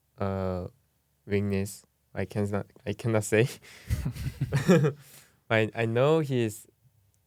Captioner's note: laughs